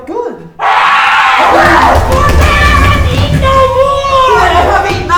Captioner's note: screaming